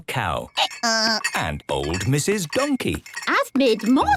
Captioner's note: braying